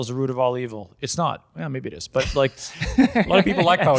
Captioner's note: laughs